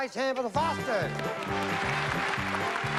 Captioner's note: applause